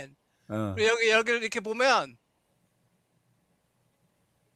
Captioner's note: non-english speech